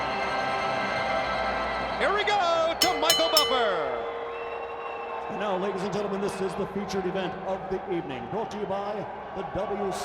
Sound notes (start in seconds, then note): 5.0 bell ringing